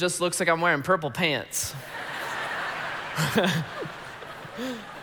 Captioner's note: congregation laughing